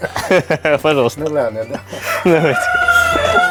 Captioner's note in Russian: смеются